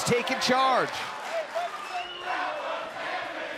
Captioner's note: fans chanting